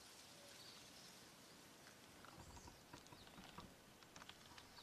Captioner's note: birds chirping